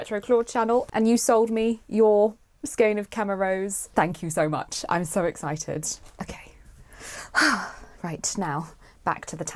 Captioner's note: exhales